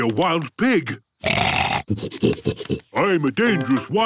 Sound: snorting

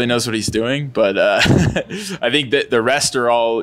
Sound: laughs

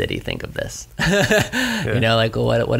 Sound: laughs

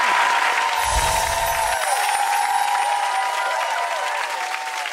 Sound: light chimes

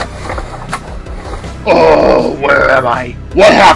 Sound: groans

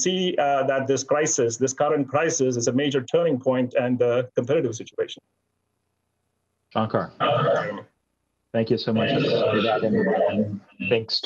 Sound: echo

